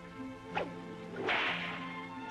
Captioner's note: cracking whip